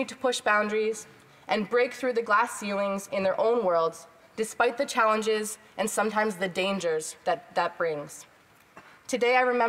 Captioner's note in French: voix de l'interprète